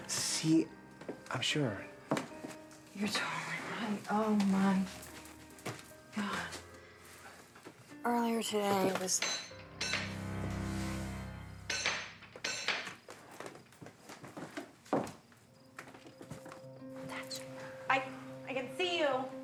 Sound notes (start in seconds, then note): 9.1 door knocker clanking; 10.1 ominous music; 11.8 door knocker clanking